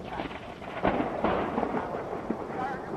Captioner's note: thunder cracks